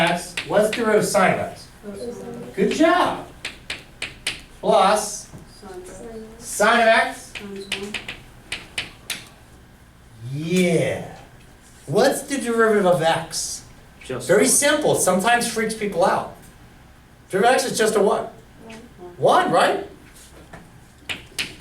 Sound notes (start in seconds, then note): 2.4 voiceover; 5.0 voiceover; 8.4 voiceover